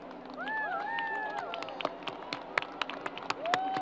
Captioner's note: crowd applause